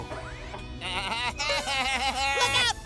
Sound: bleating

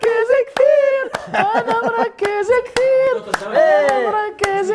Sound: laughs

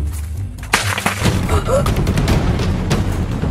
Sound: splattering; thundering music

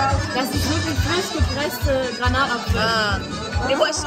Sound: speaking German

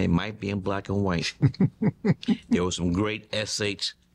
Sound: laughing

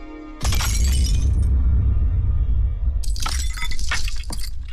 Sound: photo frame shatters

